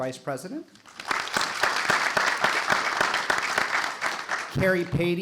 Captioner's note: audience applauding